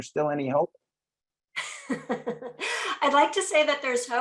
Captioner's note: laughs